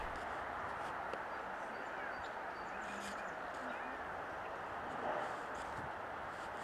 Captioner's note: cars passing, birdsong